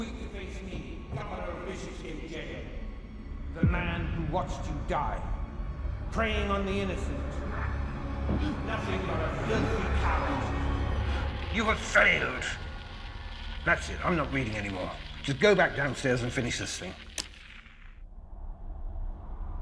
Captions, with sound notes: Too weak to face me, governor of Bishopsgate Jail, the man who watched you die. Preying on the innocent. Nothing but a filthy coward. You have failed. That's it, I'm not reading anymore. Just go back downstairs and finish this thing. [switch clicks]